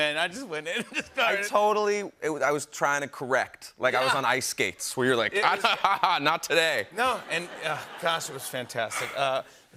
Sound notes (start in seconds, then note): 7.0 laughter